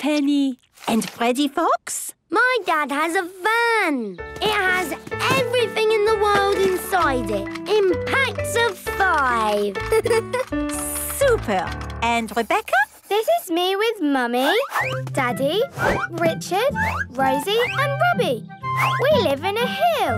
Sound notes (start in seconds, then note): 9.8 giggles